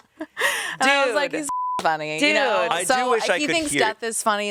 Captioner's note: beep